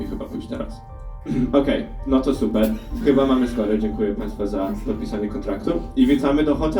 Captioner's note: clears throat